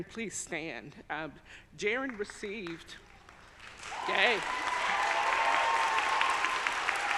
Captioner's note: audience applauding